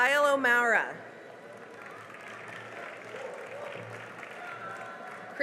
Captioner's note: cheering and applause